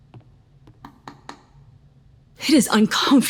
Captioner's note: finger tapping